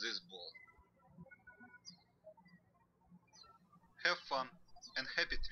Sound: birds chirping

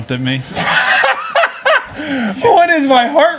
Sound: laughs

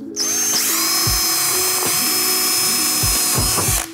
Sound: drill whirring

